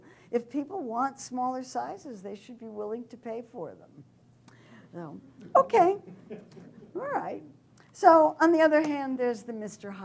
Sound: laughter

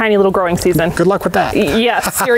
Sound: laughs

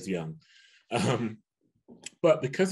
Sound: chuckles

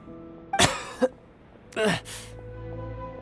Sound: cough

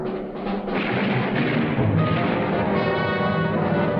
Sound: gunfire

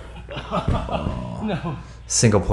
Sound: laughs

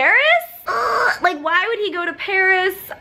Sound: squeaks

